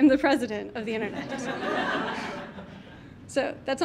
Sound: audience laughs

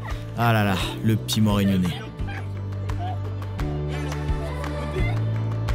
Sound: laughs

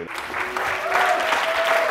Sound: audience applauds

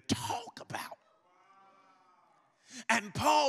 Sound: congregation muttering in agreement

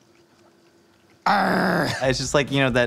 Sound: groans

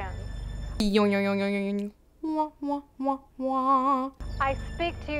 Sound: imitating cartoon sfx

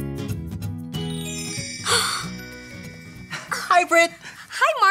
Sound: stars sparkling

